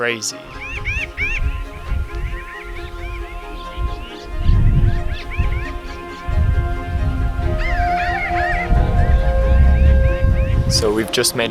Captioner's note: birds chirping and squawking